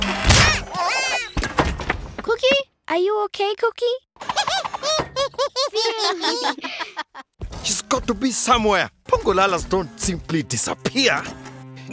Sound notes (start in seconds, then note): 4.2 laughter; 4.2 laughing